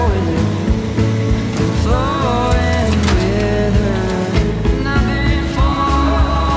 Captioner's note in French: chant